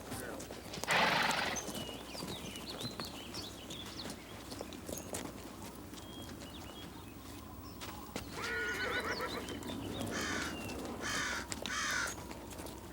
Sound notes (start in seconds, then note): 0.8 horse snorts; 5.6 wind whistles; 8.4 horse neighs; 10.0 birds squawk